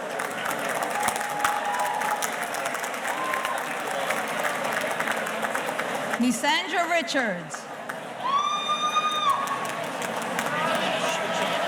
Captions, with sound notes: (audience cheers and applauds) Nseandra Richards. (audience cheering)